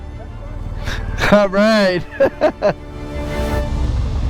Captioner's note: laughs